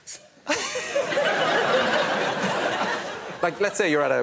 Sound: laughter

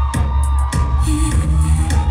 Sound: audience cheers; upbeat drums

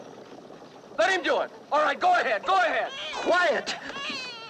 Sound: baby crying

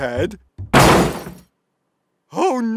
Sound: crash

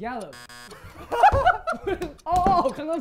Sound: laughter

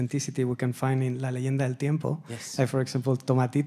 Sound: speaking Spanish

